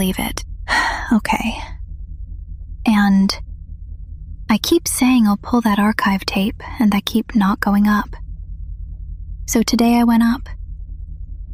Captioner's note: sighs